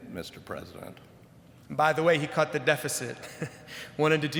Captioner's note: chuckles